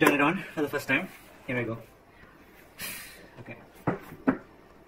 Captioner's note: deep breath